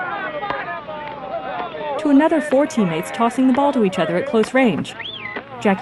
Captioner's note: ball thumping